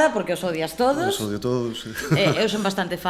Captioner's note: laughs